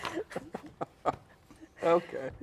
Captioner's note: laugh; laughs